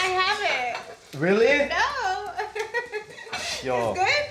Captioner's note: laughs